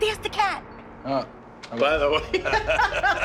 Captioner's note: laughter